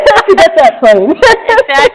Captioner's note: laughs